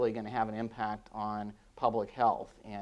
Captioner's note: none